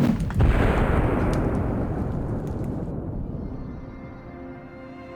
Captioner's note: man shouting; explosion booming; fire whooshing; soft music